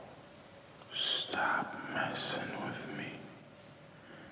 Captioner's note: whispering